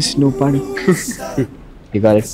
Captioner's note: Laughs